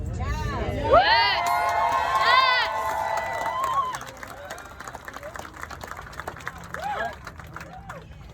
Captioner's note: crowd cheers